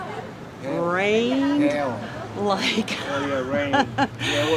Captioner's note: chuckles